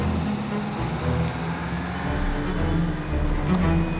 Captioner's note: upbeat music; engine rumbling